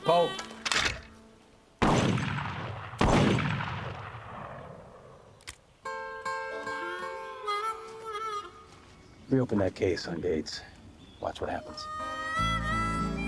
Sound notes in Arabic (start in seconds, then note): 0.2 صوت نقر; 1.8 إطلاق نار; 5.3 صوت نقر; 5.8 موسيقى هارمونيكا; 11.4 موسيقى هارمونيكا